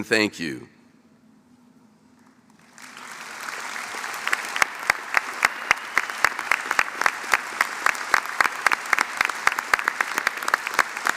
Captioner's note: applause